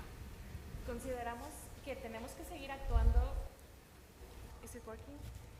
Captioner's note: speaking Spanish